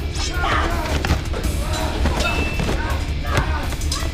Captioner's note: thudding